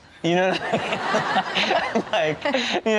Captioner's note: audience and host laughs